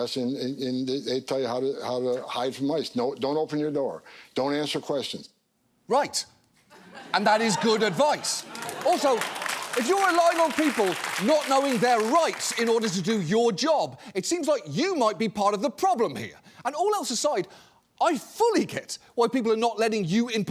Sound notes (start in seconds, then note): 7.0 audience applauding